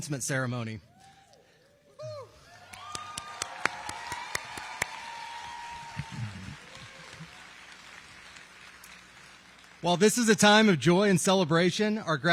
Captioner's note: applause